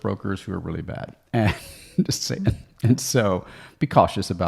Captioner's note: chuckling